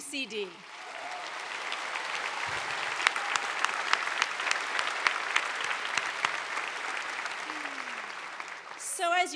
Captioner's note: applause